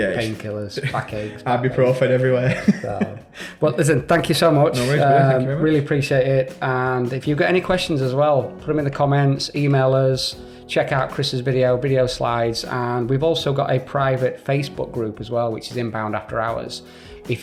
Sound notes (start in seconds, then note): 2.4 chuckling